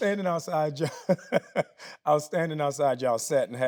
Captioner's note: laughing